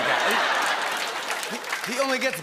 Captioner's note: laughter and applause